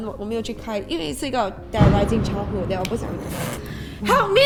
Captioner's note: thunder rumbles